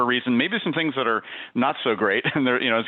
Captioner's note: giggles